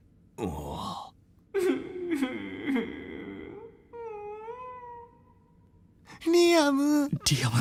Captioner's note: sobbing